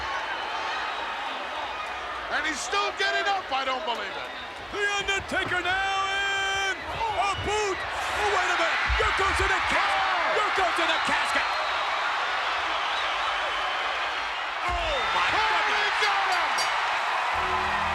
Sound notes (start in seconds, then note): 12.1 crowd cheering; 17.3 bell rings